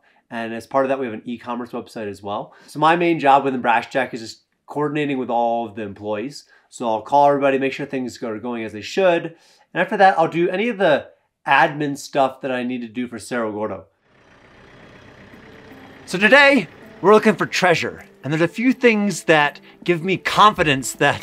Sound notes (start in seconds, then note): 14.1 backhoe idling